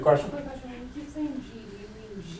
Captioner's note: voiceover